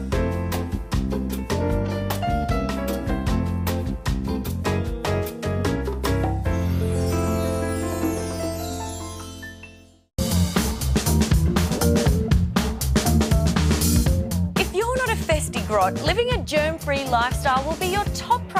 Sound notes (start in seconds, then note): none